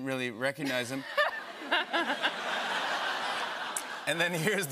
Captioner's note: laughter